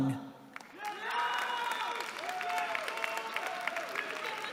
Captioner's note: cheering